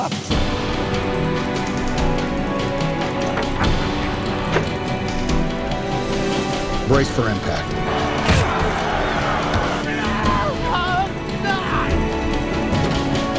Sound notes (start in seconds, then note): 0.3 uplifting dramatic music; 7.8 crowd shouting; 8.2 boxer grunting